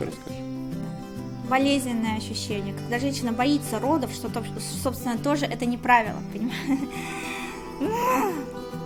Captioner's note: laughing